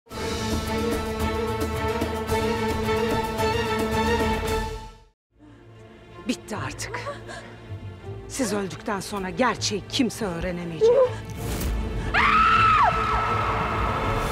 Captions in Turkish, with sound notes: Bitti artık. Siz öldükten sonra gerçeği kimse öğrenemeyecek. (Çığlık sesi)